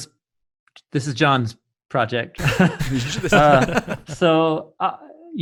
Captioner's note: laughing